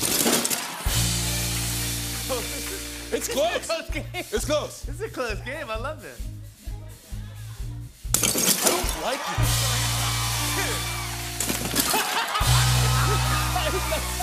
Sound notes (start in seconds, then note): 0.0 cheering and applause; 0.2 rimshot; 8.6 cheering and applause; 9.3 rimshot; 11.5 cheering and applause; 11.5 rimshot